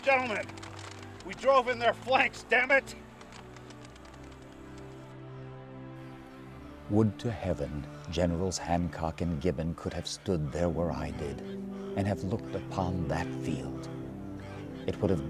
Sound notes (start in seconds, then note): 5.4 dramatic music; 7.1 voiceover